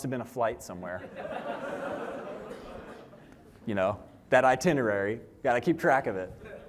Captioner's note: laughter